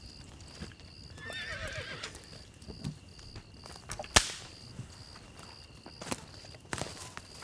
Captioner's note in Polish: rżenie koni, dźwięki łamanego drewna i krzątaniny